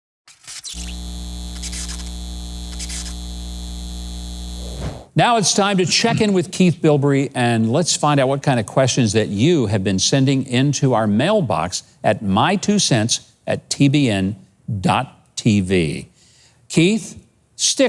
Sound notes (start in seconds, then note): 0.2 static buzzing